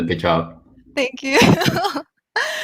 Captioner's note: laughs